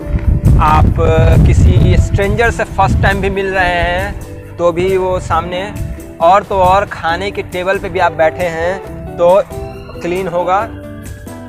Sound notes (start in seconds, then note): none